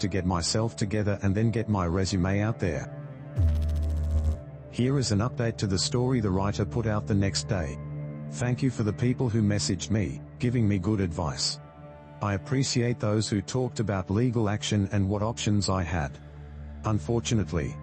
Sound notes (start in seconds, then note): 3.4 electrical noise